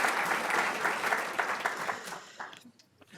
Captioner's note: audience laughing